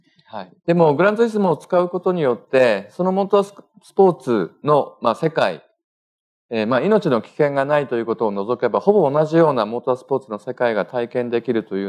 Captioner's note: speaking japanese